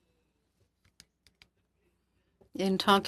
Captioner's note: speaking French